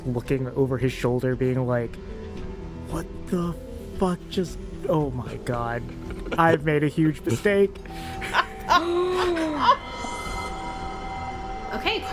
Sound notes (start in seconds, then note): 7.8 gasps, laughter; 9.8 sweeping music transition